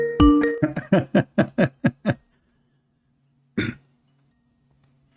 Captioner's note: Ketawa